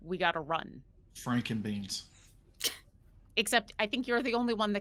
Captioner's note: person chuckling